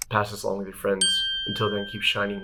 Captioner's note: ding